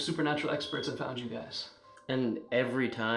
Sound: PPD beeps

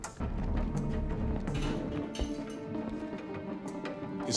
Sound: faint clatter

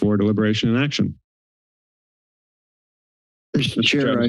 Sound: silence

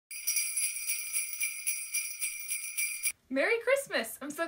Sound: bells jingling

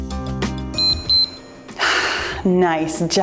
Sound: timer beeps

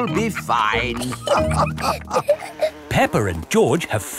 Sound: all laughing

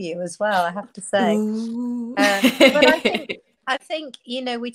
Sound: laughs

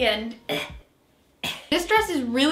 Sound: clears throat

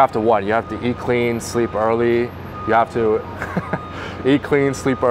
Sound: laughs

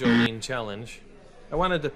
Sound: buzzing sound

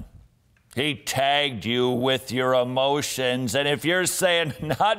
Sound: laughs

